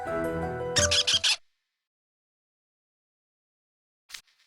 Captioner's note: squeaks